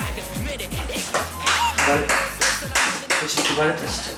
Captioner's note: the manager claps